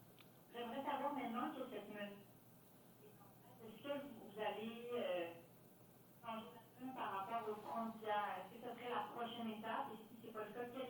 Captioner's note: speaking French